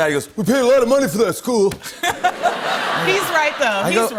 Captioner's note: laughter